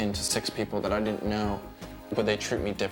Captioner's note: none